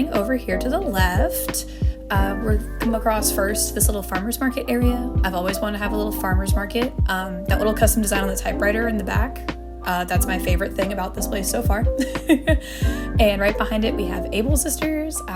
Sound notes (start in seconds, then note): 12.0 laughter